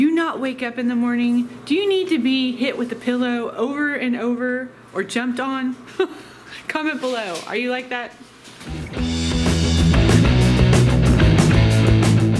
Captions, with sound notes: Do you not wake up in the morning? Do you need to be hit with the pillow over and over, or jumped on? (laughs) Comment below. Are you like that? (upbeat rock music)